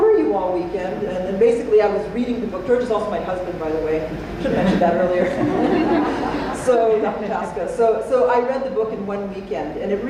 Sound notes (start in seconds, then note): 5.1 laughter